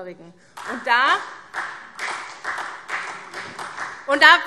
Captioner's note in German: Beifall SPD